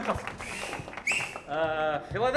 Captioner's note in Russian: свист